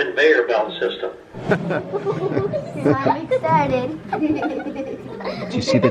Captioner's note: scattered laughter